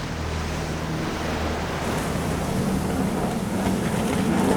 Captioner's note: engine revving